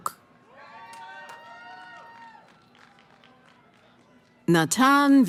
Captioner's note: cheering